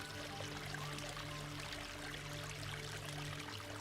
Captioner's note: water splashing